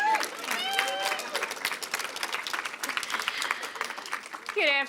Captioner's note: applause, cheers